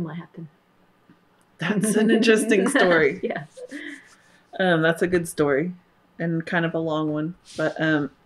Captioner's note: laughter